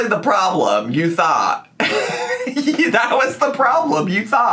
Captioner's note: laughs